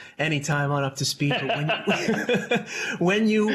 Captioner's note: laughter